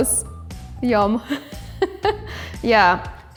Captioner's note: laughs